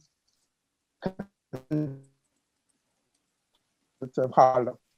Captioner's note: audio cuts out